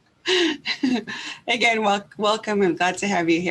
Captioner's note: laughs